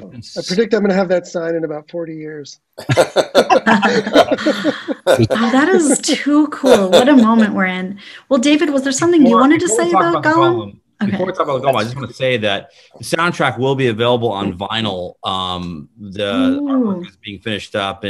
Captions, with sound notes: - I predict I'm gonna have that sign in about 40 years. (all laughing) - That is too cool, what a moment we're in! Well, David was there something you wanted to say about Golem? Before we talk about Golem I just wanted to say that this soundtrack will be available on Vinyl, the art work being finished up